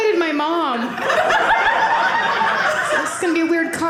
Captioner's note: audience laughing